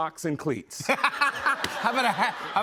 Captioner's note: laughter